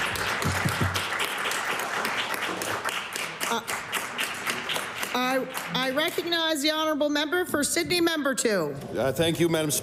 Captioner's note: applause